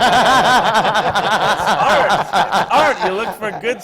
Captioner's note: laughter